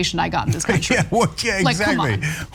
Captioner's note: laugh